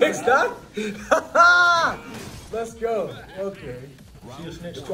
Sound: laugh

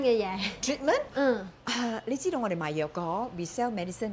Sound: in Cantonese

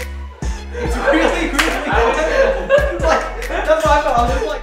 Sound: laughs

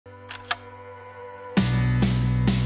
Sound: Slide projector click

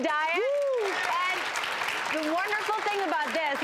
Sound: applauding

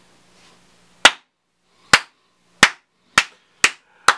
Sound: slow clap

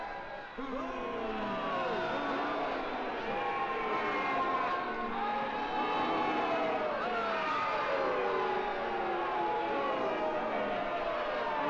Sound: crowd booing & clamoring

